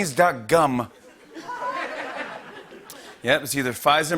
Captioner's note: laughter